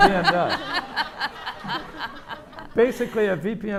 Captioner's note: audience laughing